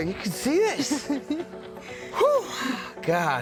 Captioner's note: laughs